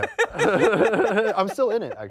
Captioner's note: all laughing